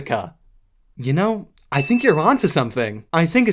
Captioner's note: ding